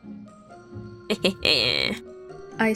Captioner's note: laughing